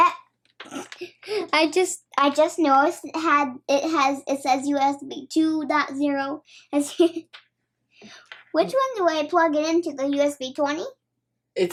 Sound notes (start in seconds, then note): 0.5 chuckling; 7.0 chuckling